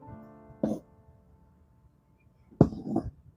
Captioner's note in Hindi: गला साफ़ करने की आवाज़